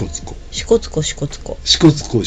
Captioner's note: laughs